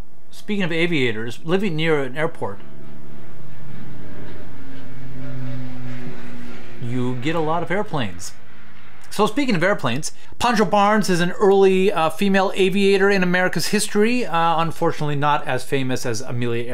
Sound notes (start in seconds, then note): 4.5 airplane roars overhead